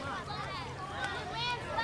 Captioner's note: children talking